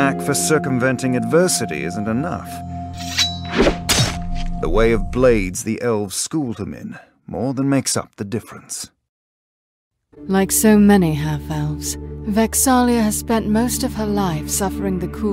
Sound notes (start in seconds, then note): 2.9 knife scraping